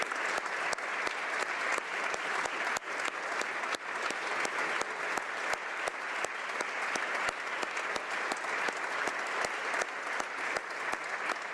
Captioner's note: applause